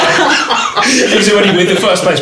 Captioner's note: laughing